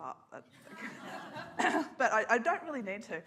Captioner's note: audience laughs